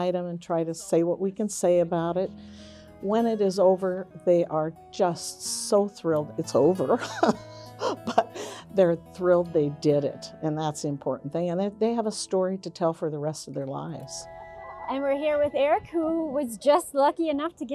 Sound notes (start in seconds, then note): 7.8 laughs